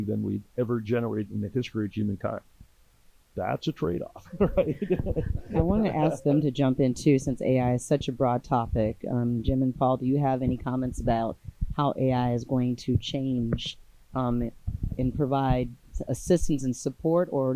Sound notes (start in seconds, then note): 4.1 laughs; 4.3 audience laughing